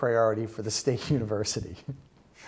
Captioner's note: laughter